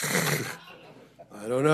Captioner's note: audience laughs; laughs